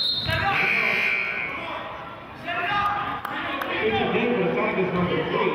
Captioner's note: whistling and buzzer sounding